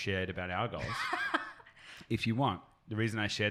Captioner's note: laughs